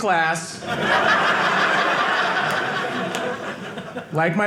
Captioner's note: audience laughing